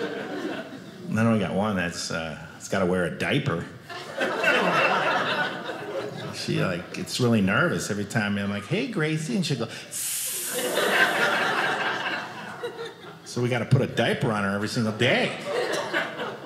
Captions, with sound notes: Then we got one that's gotta wear a diaper. (audience laughing) She gets really nervous every time you're like, "Hey Gracie." She'll go like (imitates Gracie peeing) So we got to put a diaper on her every single day.